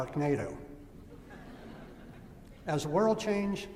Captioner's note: laughter